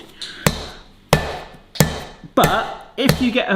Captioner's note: hammer slamming